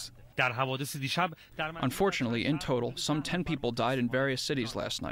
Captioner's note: through translator